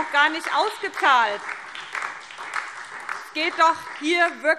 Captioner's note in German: Beifall